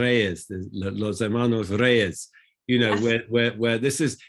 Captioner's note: speaks foreign language